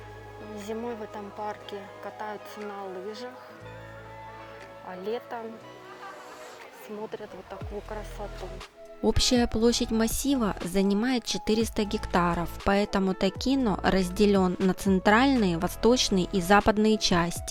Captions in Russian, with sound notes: Зимой в этом парке катаются на лыжах, а летом... смотрят вот такую красоту. (закадровый голос) Общая площадь массива занимает 400 гектаров, поэтому Takino разделен на центральные, восточные и западные части,